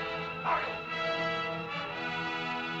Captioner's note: Loana's father yells out; dramatic music